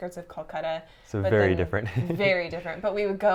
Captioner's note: laughs